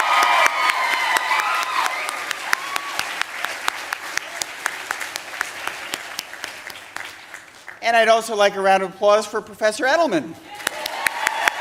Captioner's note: applause